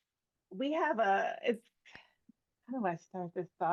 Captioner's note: hablando inglés